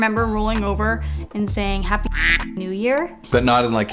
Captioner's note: quack